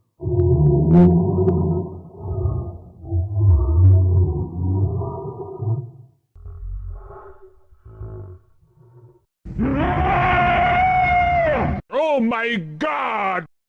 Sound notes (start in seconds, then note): 0.2 creature growls; 9.5 creature roars